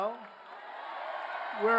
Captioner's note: cheers, applause